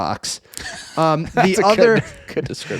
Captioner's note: laughing